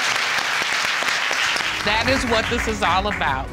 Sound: all clapping

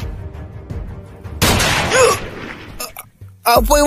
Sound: someone getting shot

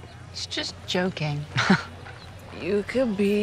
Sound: laughs

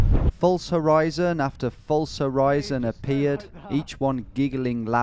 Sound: voiceover

